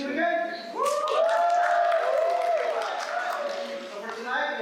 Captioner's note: applause